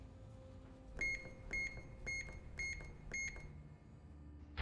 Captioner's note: beeping